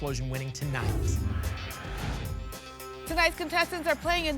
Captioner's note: whoosh